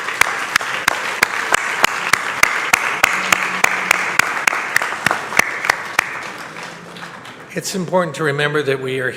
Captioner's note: applause